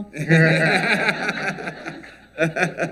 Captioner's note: laughter